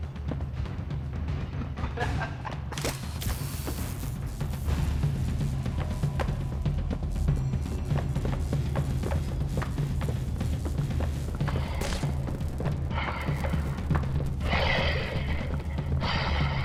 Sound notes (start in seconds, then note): 0.0 laughs; 4.5 footsteps; 14.4 laughs